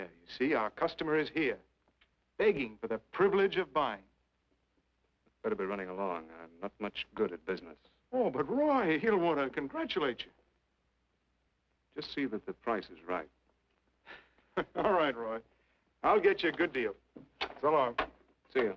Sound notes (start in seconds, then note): 14.0 chuckling